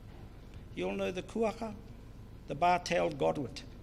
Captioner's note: foreign Language